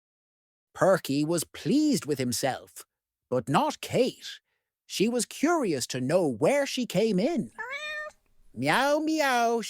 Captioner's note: meow